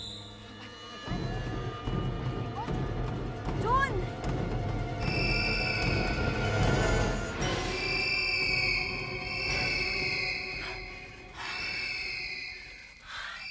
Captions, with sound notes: Kids, right? They’re stubborn. There. -[shrieking in distance] -[panting]